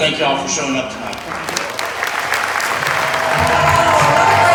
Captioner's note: supporters clapping and cheering